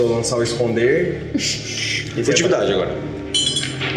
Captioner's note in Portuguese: risada